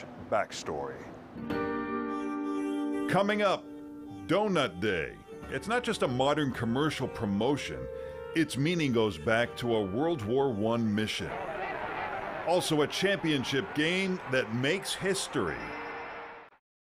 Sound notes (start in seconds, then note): 11.2 crowd cheering